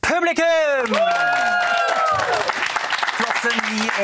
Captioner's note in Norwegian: Applaus